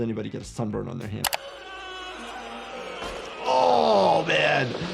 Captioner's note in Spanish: música dramática; hombre gritando